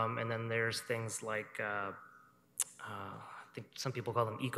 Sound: sighs

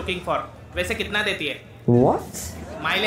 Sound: non-english speech

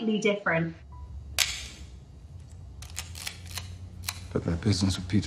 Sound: camera clicks

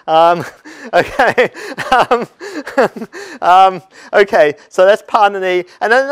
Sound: laugh

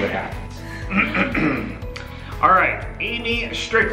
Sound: clears throat

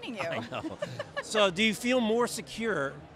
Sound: laughs

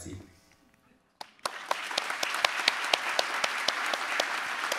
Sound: audience applauding

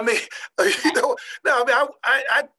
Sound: laughing

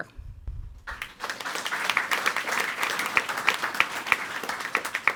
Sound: audience applauding

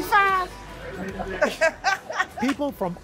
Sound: laughter

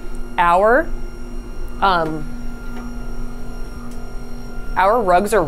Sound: machine whirring continues

